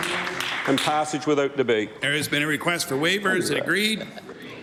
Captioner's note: applause